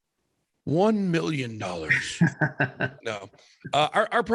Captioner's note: laughs